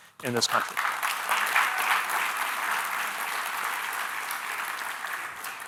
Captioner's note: audience applauding